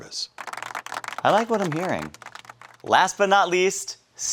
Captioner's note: audience applauding